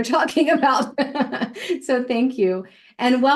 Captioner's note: laughs